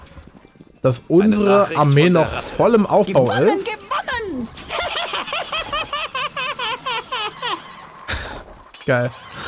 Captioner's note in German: gelächter